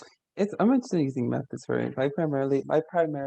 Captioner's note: voice muffling